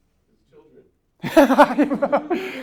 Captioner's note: voiceover; laughs